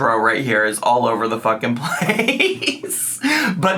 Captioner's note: laughs